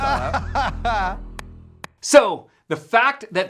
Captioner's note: laughing